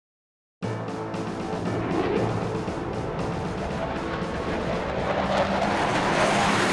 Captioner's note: proud music; aircraft whirring